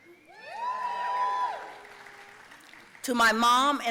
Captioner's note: audience cheering